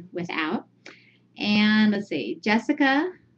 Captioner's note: Vietnamese